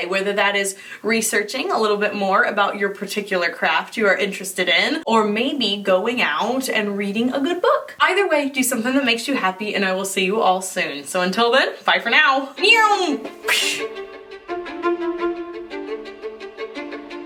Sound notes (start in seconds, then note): 13.4 mimics explosion; 13.8 dramatic music